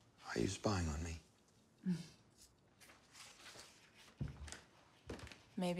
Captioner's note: chuckles